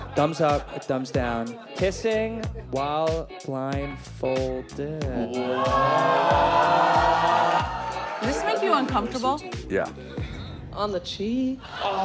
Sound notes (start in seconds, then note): 5.2 crowd exclaiming